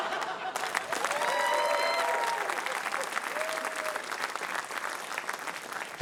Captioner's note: laughter; cheering, applause